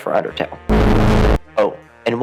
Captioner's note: eldritch horror sound